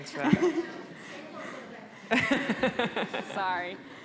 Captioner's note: laughing